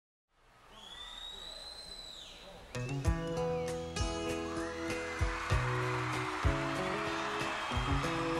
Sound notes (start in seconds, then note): 0.8 audience whistling; 2.8 soft guitar music